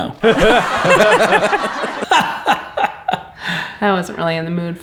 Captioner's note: canned laughing